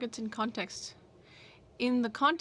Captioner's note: speaking french